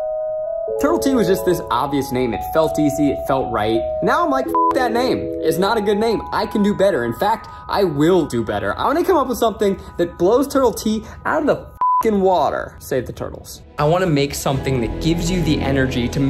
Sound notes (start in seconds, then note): 4.4 beeps; 11.8 beeps